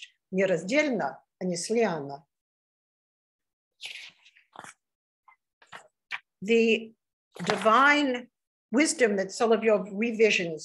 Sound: speaking russian

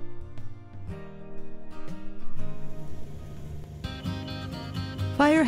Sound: sound of ATV fades in. Driving electric guitar music starts

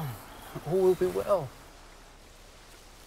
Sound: none

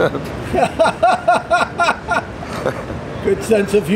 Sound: interviewer laughs

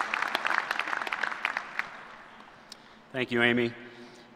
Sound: applause

